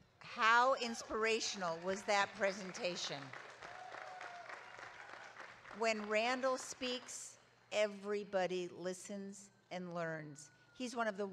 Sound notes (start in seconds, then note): 3.8 audience claps